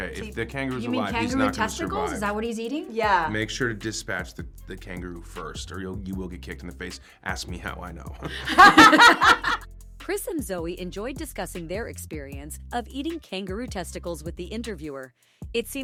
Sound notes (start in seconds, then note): 8.2 laughing